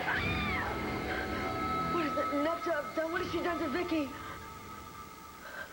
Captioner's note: roxy screams